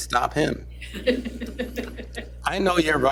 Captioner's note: laughter